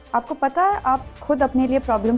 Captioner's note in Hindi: none